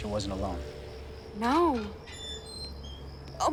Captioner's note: gate hinges creak